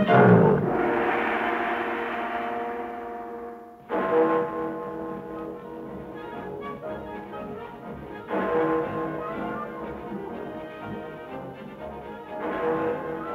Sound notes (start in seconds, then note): 0.7 gong chimes; 4.4 bell tolling